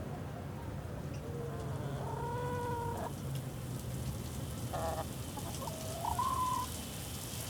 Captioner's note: chicken clucking